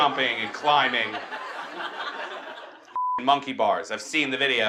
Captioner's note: beep